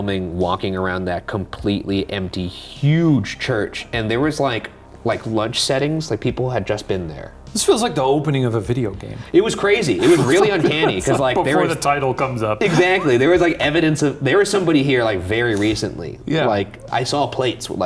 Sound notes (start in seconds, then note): 10.0 laughing